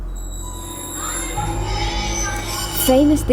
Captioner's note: children talking